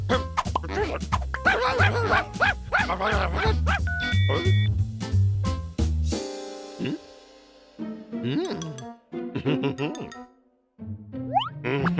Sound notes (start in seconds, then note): 1.4 barking; 3.9 phone beeps; 9.3 chuckling